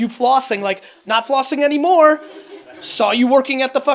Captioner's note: audience laughs